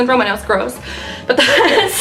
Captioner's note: laughs